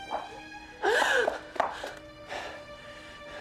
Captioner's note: gasping